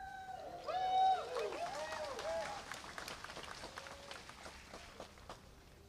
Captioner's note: applause